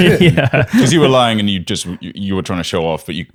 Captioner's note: laughs